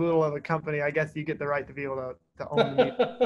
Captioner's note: laughter